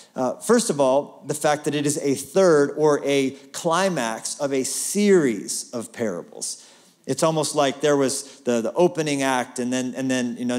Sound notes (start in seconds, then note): none